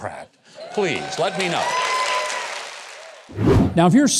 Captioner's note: cheering